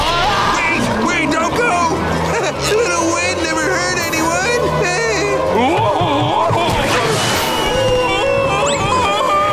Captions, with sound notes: Please, wait, don't go! A little wind never hurt anyone! [whimpering] Whoa, whoa! [screaming]